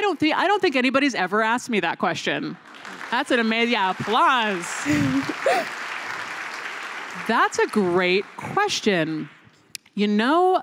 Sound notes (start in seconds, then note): 2.5 applause